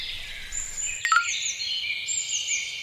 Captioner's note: pling